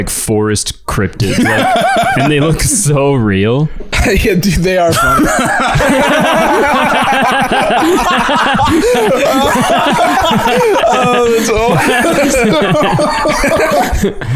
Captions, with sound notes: forest cryptids. And they look so real. Yeah, dude, they are funny. (all laughing hysterically) (continuing laughter at AI Steve Harvey's plight)